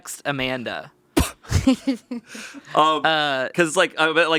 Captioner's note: laughs